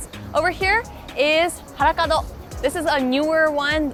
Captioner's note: speaking foreign language